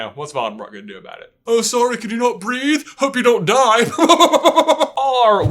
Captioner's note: chuckle